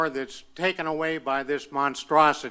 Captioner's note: none